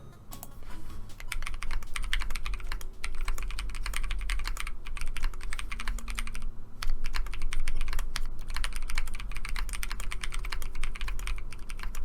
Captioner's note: typing sounds